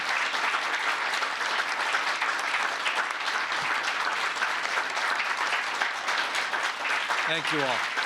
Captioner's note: applause